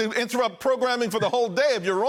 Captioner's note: laughter